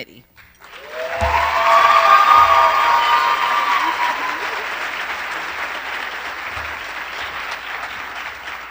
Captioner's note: applause